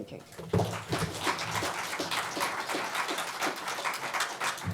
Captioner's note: audience applauds